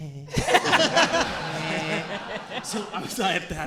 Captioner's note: audience and hosts laughing